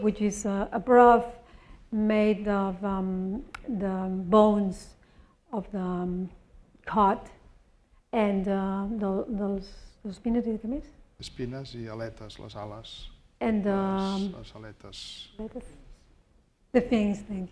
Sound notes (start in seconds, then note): 10.0 speaking spanish